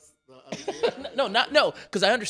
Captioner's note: chuckles